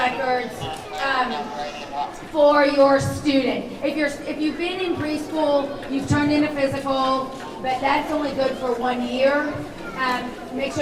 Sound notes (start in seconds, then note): none